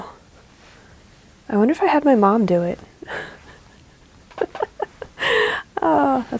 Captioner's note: laughs